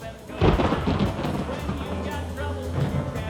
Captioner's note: thunder